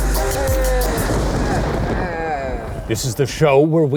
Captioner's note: scary voice